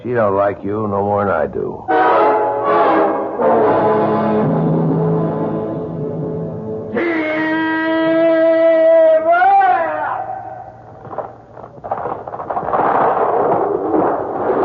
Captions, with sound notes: She don't like you, no more than I do. [horns honking] [screaming] [thunder]